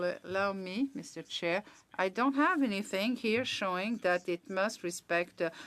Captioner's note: speaking French